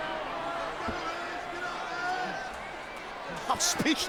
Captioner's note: audience chattering